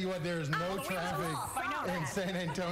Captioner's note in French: laughter